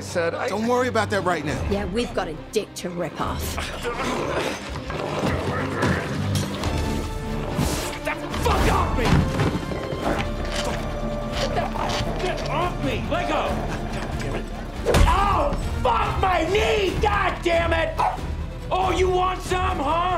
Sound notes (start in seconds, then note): 3.6 grunting; 3.6 snarling; 18.0 barks